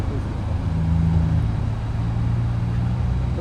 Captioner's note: engine Revving